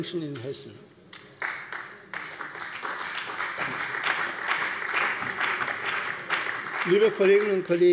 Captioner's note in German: Beifall bei der CDU und dem BÜNDNIS 90/DIE GRÜNEN